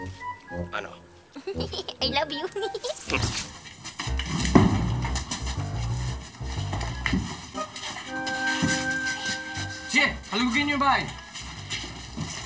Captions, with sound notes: -See? -[giggling] I love you. Go ahead, search the house.